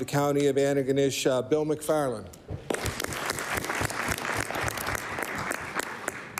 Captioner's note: applause